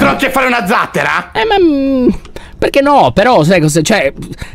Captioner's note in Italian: esitante